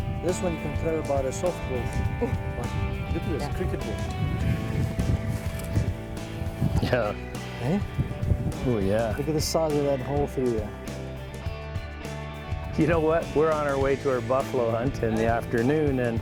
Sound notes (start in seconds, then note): 2.7 laughter